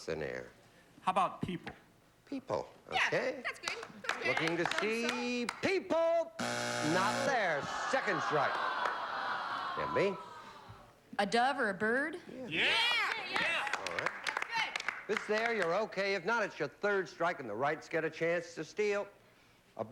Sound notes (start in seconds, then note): 6.4 buzzer